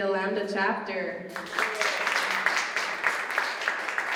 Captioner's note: applause